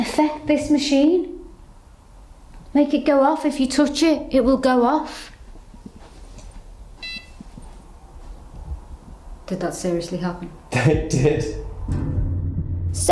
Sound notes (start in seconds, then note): 7.0 beep